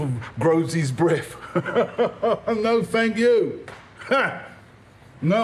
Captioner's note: he laughs